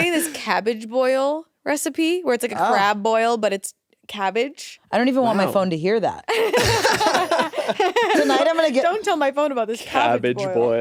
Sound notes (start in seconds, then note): 6.4 all laugh